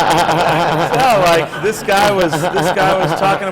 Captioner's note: laughter